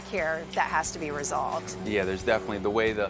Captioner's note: none